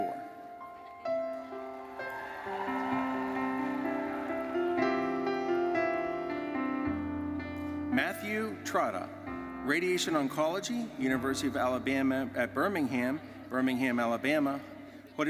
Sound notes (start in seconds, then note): 1.4 audience cheering and applauding; 5.0 gentle music